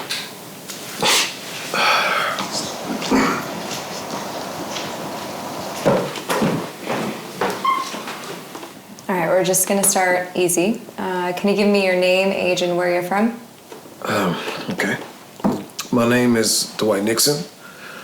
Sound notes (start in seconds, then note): 1.7 Dwight sighs; 2.2 cameraman speaking faintly